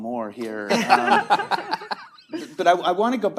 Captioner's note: all laughing